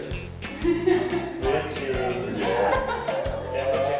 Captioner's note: laughs